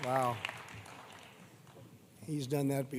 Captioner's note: applause